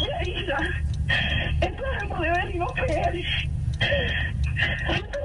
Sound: sobbing continues, inaudible due to cries

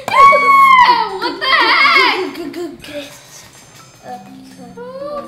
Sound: screaming

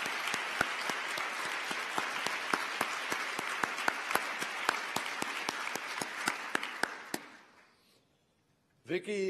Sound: applause

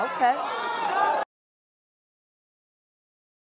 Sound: crowd shouting

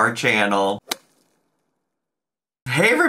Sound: whip cracks

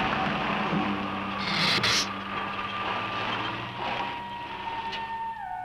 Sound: gila monster hisses

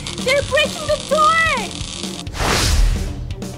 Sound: static noise

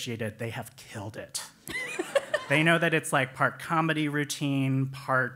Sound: laugh

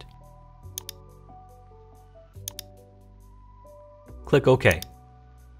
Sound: mouse clicking

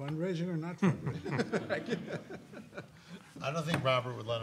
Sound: laughs

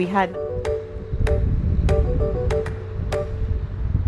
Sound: wind whipping

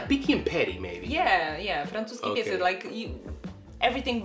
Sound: speaks in Polish

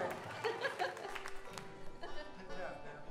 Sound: laughing

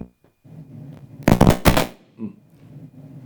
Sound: microphone pops

